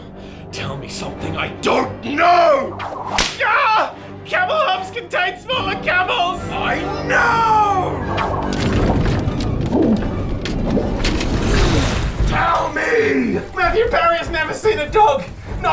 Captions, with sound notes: Tell me something I DON'T KNOW! [whip crack] Gah! Camel humps contain smaller camels! I KNOOOW! [gurgles] TELL ME! Matthew Perry has never seen a dog...